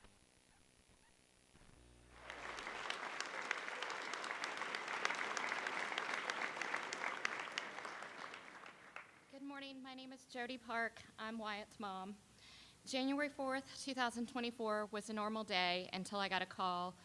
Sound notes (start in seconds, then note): 2.1 applause